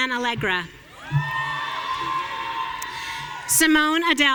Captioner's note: audience cheering